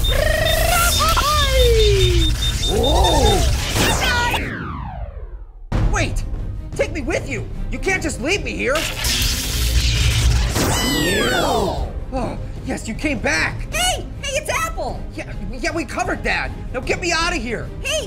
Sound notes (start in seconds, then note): 0.0 rapid beeping; 3.3 poof!; 8.7 zapping noise; 10.6 poof!, Marshmallow cheers; 12.1 sighs in relief